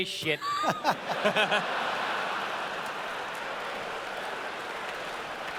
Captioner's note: laughter